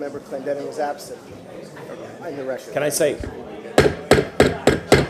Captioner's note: sounding gavel